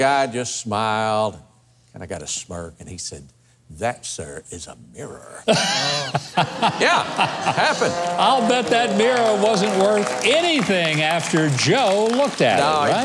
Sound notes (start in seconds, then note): 5.5 Huckabee laughs